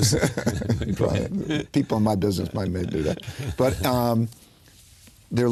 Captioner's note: laughter